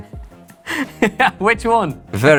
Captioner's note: laughs